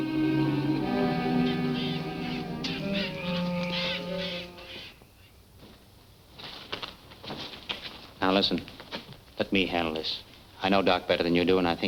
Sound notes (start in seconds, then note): 1.9 birds chirping